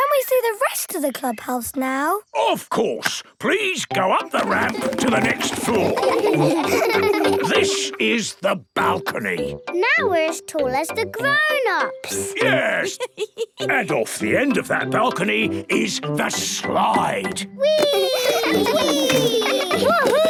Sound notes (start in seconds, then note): 6.5 laughing